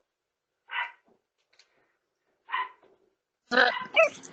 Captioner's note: Ella barks